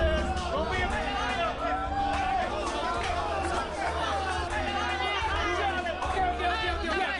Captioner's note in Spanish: Gritos y exclamaciones